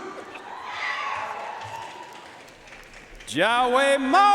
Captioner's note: audience cheering and applauding